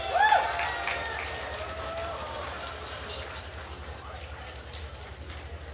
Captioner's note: attendees cheering and applauding